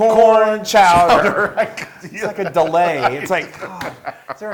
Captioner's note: laugh